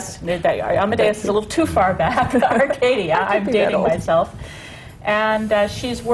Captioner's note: laughs